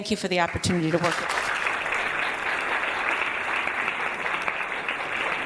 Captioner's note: audience applauding